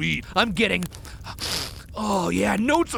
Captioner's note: sniffs